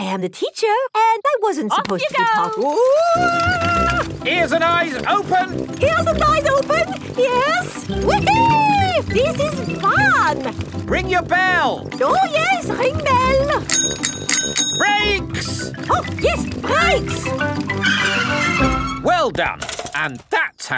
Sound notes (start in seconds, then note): 11.8 rings bell; 17.2 tires screech